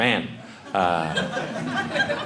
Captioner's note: audience laughing